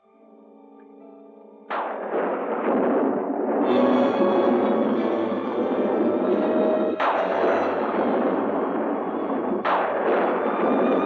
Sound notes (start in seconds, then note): 1.6 thunder crashing; 3.7 tense music